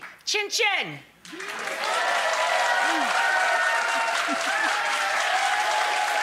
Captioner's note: audience applauding and cheering